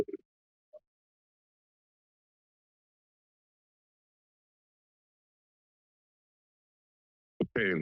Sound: silence

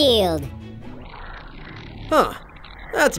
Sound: mushroom gurgling

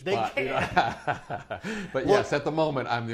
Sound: laughs

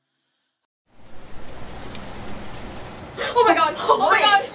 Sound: rain; gasps

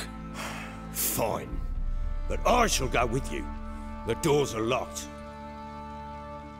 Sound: sigh

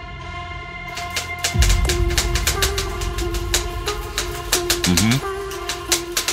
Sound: typewriter sound

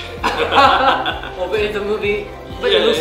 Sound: laugh

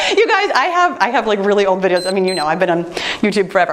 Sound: timer beeps

